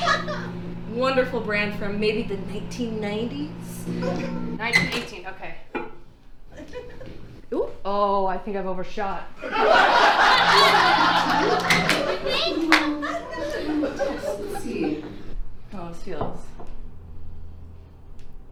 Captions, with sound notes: Wonderful brand from maybe the 1990s? - 19, 18, okay. - Oh, I think I've overshot. (audience laughs) -A Little test, let's see how this feels.